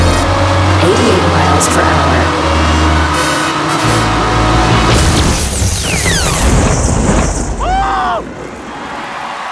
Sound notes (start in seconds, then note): 1.3 computer Voice; 3.3 lightening crashing; 3.3 triumphant music